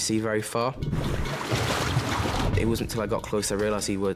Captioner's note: waves crashing